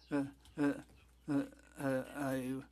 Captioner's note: speaking French